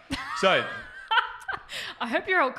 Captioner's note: laughs